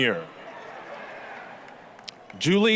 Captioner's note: applause, cheering